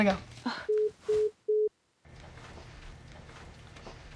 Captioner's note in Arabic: يسخر